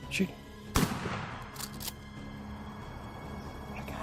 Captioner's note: gunshot